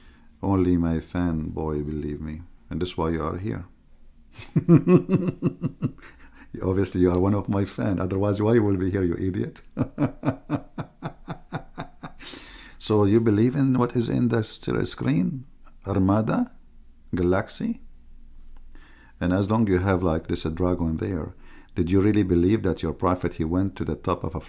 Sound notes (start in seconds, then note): 4.4 Ketawa; 9.6 Ketawa